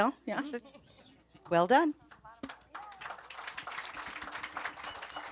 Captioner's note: audience applauds